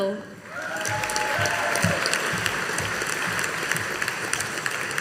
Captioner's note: audience applauding